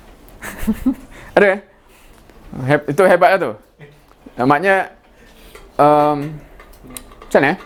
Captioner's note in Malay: ketawa